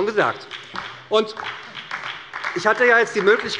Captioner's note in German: Beifall bei Abgeordneten der SPD